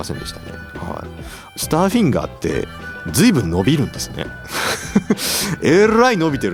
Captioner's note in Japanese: 鼻息